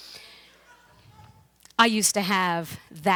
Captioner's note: audience laughs